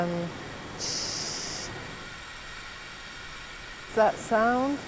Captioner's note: schhhhhhhhhhhhh sound